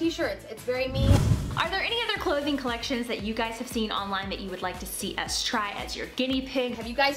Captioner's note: whooshing; upbeat rock music